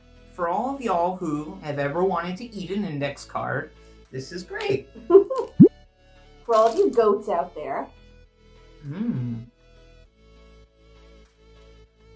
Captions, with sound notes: For all of y'all who have ever wanted to eat an index card, this is great! - (laughs) For all of you goats out there.